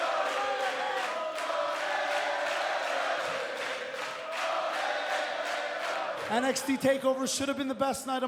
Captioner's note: fans chanting